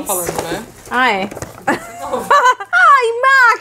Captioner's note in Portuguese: risos